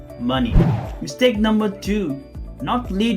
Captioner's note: air swooshing